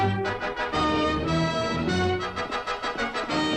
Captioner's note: horse galloping